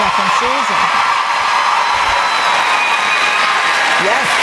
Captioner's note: cheering and Applause